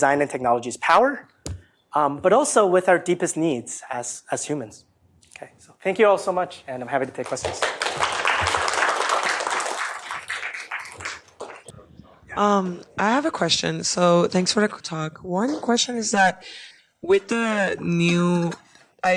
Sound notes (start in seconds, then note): 7.1 applause